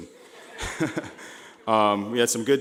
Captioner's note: laughing